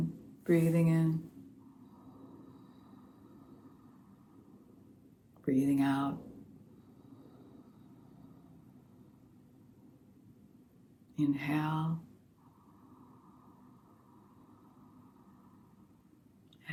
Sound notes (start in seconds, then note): 1.2 very light oceanic sound on inhale; 6.6 very light oceanic sound on exhale; 12.1 very light oceanic sound on inhale